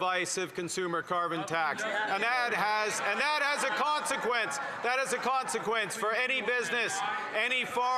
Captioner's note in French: voix de l'interprète